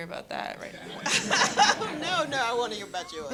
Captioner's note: laughter